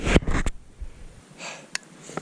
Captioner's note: sighs